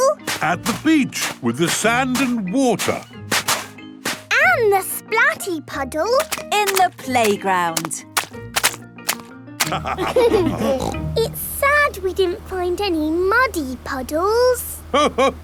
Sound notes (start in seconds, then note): 9.6 laughter